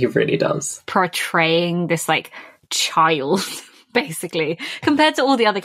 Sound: laughing

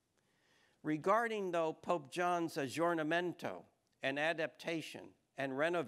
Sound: speaking foreign language

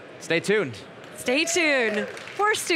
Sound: crowd applauding

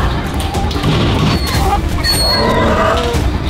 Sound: cries in pain

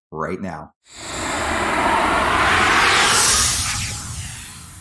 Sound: graphics whooshing

